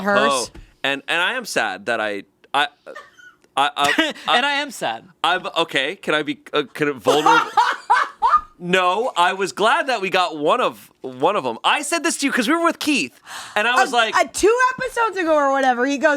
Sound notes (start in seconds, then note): 7.1 laughing